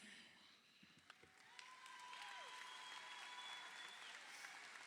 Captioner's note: crowd cheering